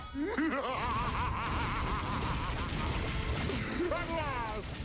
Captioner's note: zurg laughs evilly